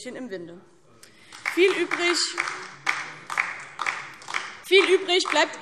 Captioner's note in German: Beifall DIE LINKE